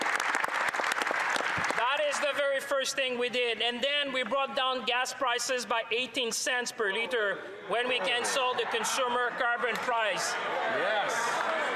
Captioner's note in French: applaudissements